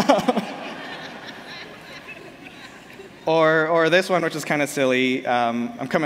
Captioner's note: laughter